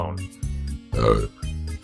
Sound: Belch

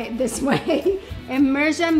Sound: laughing

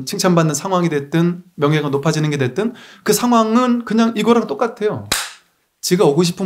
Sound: a hitting sound

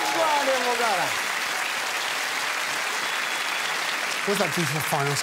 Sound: audience applause

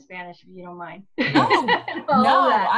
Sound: laughs

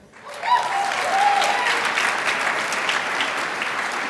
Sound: crowd applauds

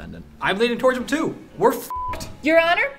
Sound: beep

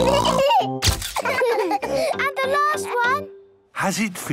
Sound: all laughing

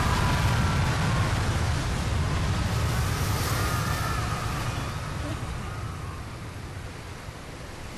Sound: crashing; screaming subsides

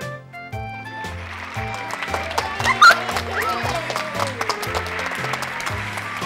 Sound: applause

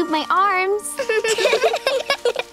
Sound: giggling

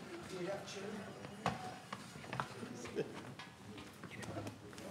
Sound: group chattering faintly

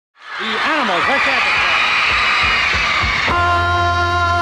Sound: audience screams; upbeat rock music

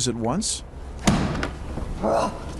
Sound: thud

